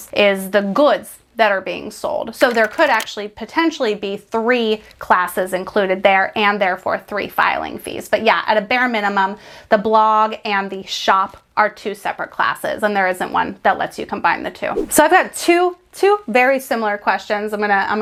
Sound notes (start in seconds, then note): none